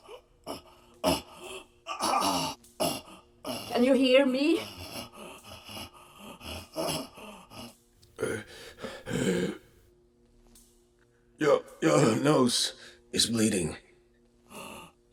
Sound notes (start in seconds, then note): 5.1 Max gasping